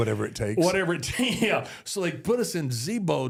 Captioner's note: laughs